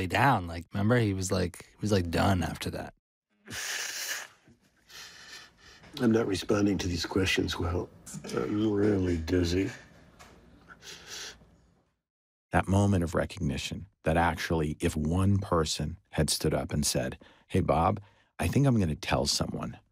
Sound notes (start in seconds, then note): 3.4 blows nose; 10.3 yawns